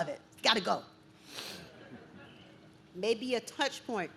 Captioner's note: audience chuckles